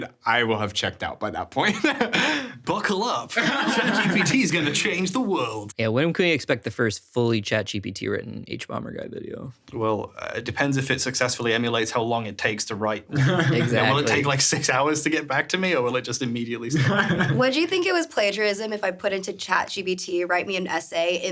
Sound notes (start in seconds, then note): 3.3 everyone laughing; 3.3 laughs; 13.1 laughing; 16.7 laughing